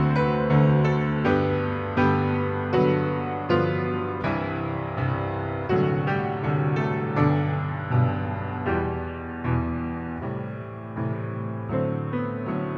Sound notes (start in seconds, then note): none